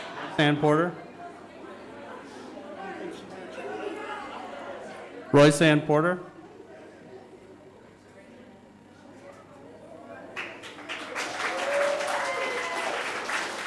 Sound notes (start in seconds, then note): 1.2 audience chattering; 10.3 audience applauding